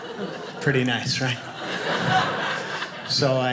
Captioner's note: audience laughing